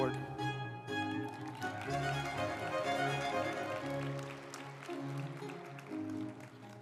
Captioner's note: uplifting music; group applauding